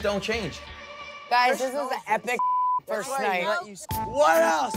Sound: beep

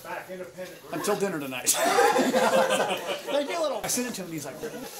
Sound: laughter

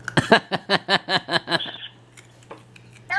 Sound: laughs

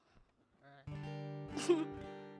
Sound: chuckles

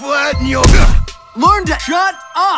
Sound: punching Sound

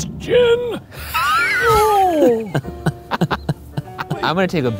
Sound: laughing

